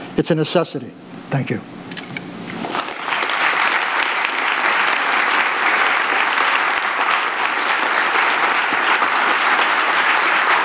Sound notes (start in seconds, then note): 2.6 audience applauds